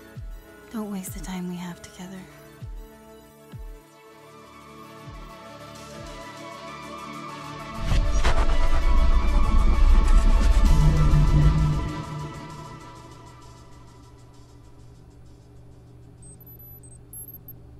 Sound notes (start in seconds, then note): 0.2 mellow music; 13.1 machines beeping